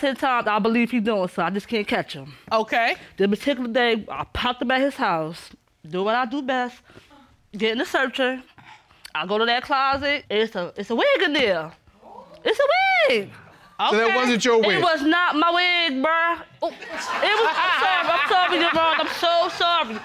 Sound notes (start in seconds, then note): 12.4 woman exclaiming; 16.7 audience laugh